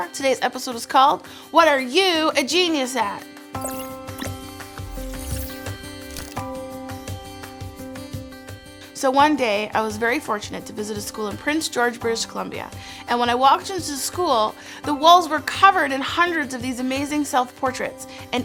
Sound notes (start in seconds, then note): 3.6 gears squeaking; 3.6 upbeat music